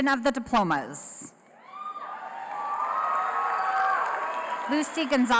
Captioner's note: applause